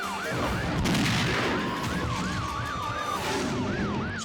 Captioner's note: gun firing